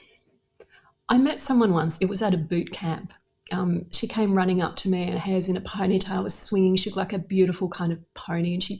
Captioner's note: none